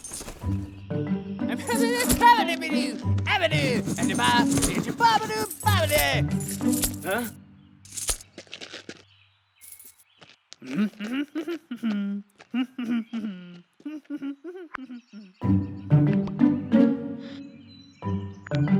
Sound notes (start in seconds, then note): 11.1 humming